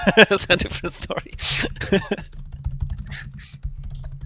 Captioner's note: laughing